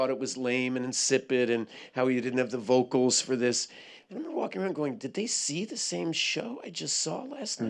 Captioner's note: none